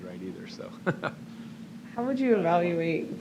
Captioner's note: laughs